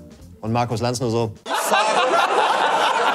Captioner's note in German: Er lacht laut